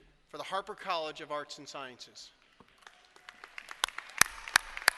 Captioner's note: applause